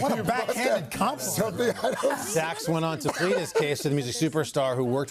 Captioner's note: laughter